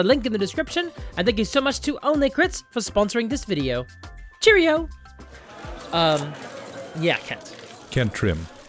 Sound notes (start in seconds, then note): 5.4 crowd of reporters shouting